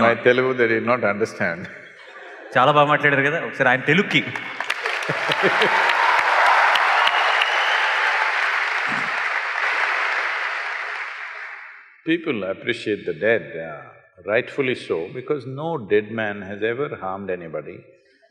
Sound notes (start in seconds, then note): 1.8 laughs; 10.1 cheers/Applause